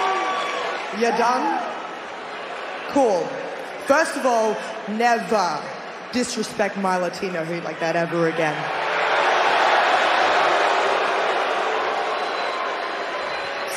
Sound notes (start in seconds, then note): 4.1 cheers and applause